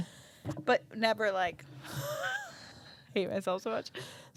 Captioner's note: laughs